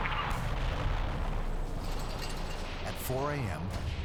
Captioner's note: artillery fire